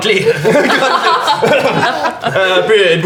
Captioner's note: laughter